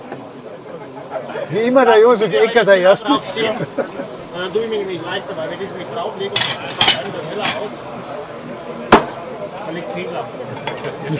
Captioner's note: laughter